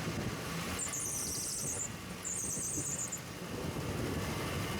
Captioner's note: birds Chirping